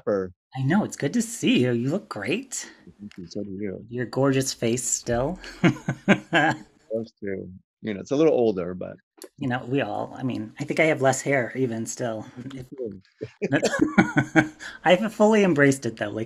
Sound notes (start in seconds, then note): 7.8 laughs; 13.2 both laugh